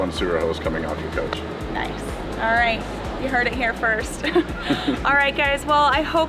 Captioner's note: laughs